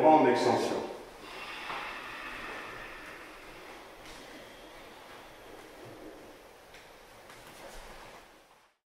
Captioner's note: breathing out